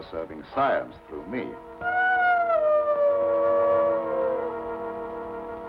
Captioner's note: wolf howling